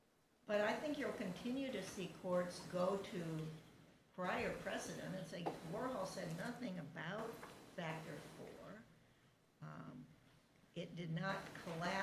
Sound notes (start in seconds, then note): none